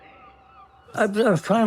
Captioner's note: whisper